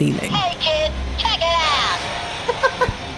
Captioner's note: laughs